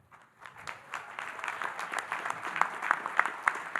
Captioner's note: audience applauding